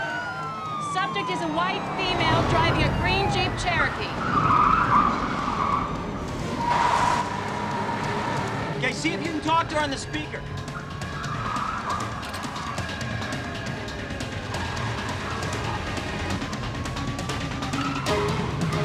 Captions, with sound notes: Subject is a white female driving a green Jeep Cherokee. (car screeches) (dramatic music) - Okay, see if you can talk to her on the speaker. (car screeches) (dramatic music)